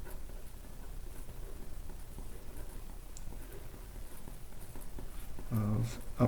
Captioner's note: writing on Paper